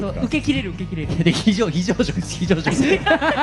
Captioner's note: laugh